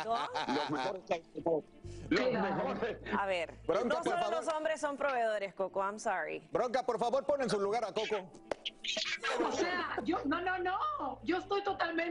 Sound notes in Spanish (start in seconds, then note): 9.2 risas